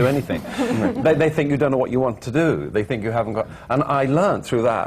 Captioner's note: laughter